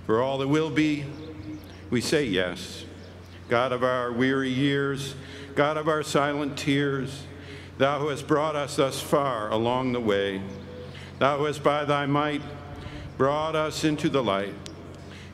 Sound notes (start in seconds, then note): none